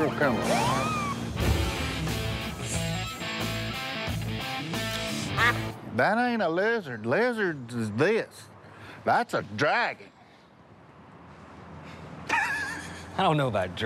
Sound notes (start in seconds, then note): 5.2 duck call quack; 12.2 laughs